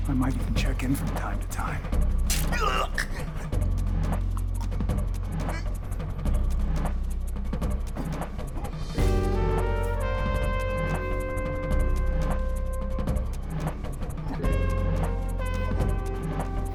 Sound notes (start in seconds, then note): 2.4 Larson groaning; 4.9 dramatic music